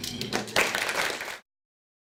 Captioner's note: applause